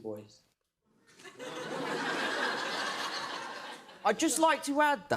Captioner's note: laughter